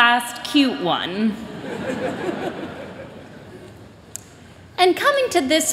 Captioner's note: laughter